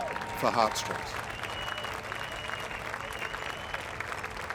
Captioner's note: audience applauding